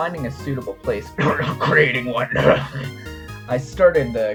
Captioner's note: cough; cough cough